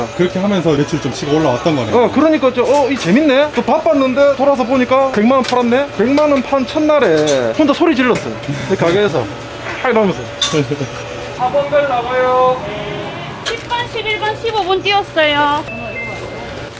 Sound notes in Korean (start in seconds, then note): 9.8 환호; 15.7 띵동